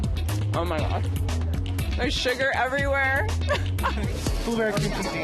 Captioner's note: laughs